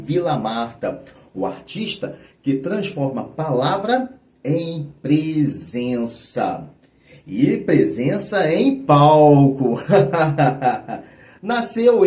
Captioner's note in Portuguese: risadas